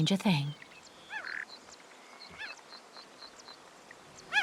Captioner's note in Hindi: चहचहाहट